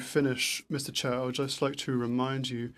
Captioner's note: speaking in French